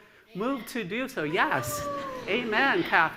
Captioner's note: cheers